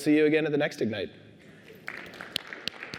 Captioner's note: applause